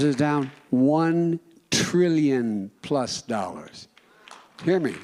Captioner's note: applause